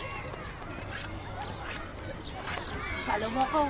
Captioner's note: whispring